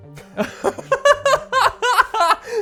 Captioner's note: both laughing